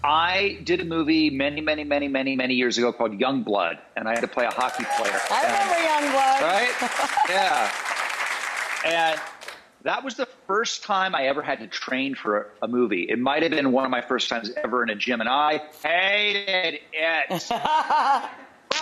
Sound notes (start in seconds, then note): 4.1 audience applauds; 6.5 giggles; 17.3 laughs